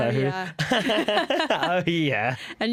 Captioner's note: laughter